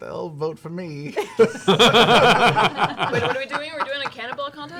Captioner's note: laughter